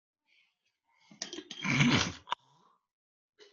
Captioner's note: sneezing